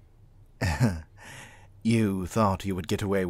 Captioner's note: chuckles